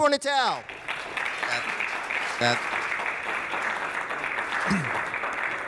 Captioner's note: audience applauding